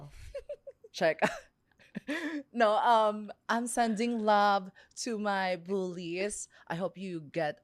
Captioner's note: laughs